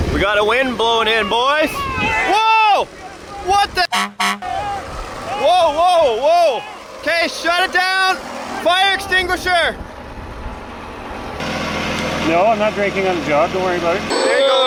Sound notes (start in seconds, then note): 3.8 horn honking